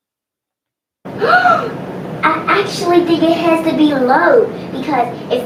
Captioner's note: gasps